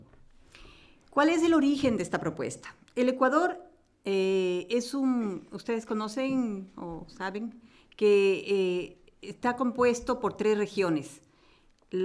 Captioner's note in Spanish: Español